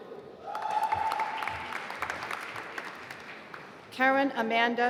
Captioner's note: applause